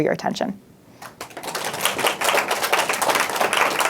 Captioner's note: audience applause